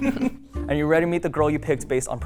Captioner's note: laughing